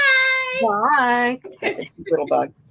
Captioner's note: laughing